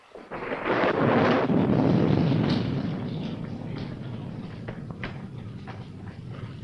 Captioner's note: rain pattering; thunder rumbling